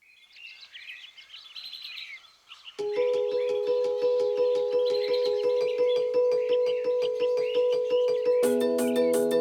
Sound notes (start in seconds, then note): 0.0 birds chirping; 2.8 upbeat bouncy music